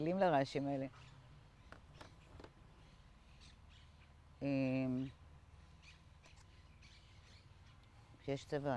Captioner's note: pauses 6 seconds